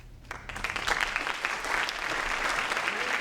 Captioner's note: applause